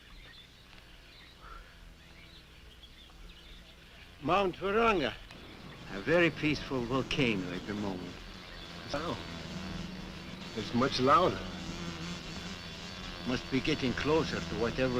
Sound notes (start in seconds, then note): 11.7 wasps buzzing